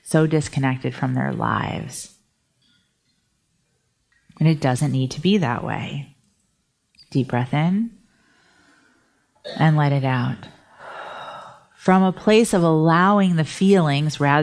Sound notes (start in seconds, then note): 8.1 breathing deeply; 10.7 sighing